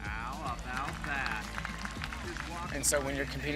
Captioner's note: audience applauds